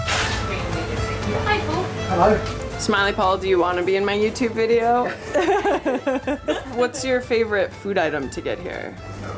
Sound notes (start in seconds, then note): 5.1 laughter